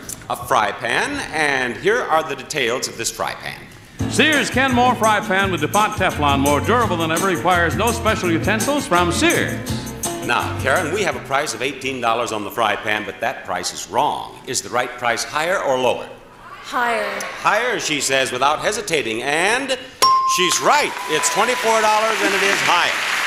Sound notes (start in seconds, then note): 20.0 bell dings